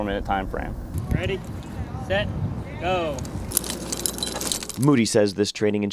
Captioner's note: climbing Sounds